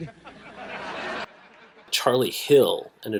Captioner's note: audience laughs